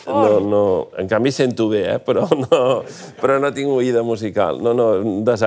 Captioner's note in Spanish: risas